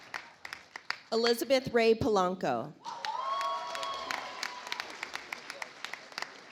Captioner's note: audience applauds